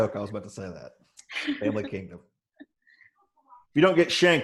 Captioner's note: laughs